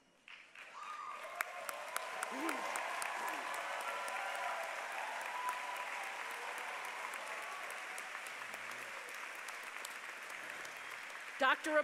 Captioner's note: applause